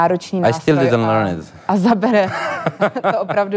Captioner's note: laugh